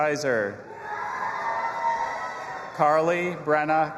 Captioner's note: audience applauding and cheering